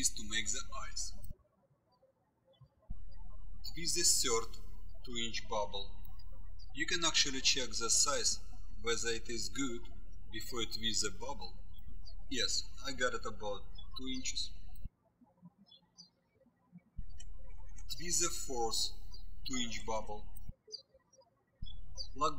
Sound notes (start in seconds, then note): 16.7 birds chirping